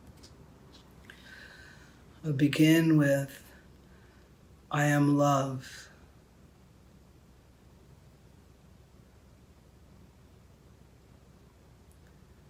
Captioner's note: silence